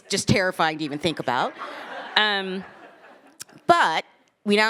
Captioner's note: attendees laughing